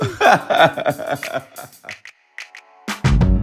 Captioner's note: laughter